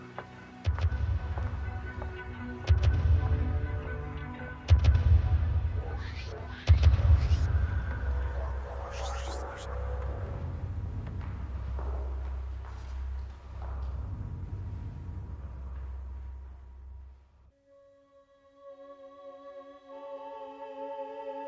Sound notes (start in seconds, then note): 11.2 footsteps clacking over ominous ambient music; 17.8 eerie electronic music